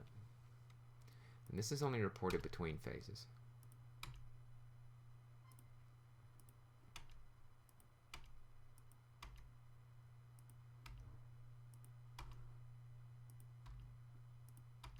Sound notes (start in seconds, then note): 3.4 typing Sounds